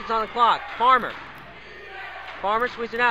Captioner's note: crowd cheers